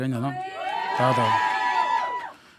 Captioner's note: audience cheering